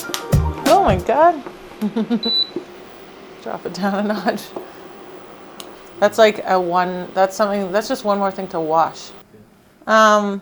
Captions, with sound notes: Oh my god. (laughs) Drop it down a notch. That's like one that's something that's just one more thing to wash.